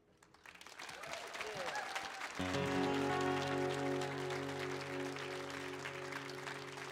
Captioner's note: audience clapping; audience cheering